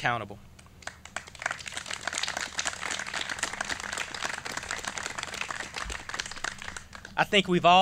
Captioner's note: clapping